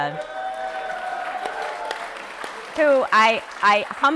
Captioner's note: applause